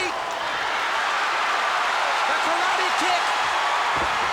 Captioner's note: applause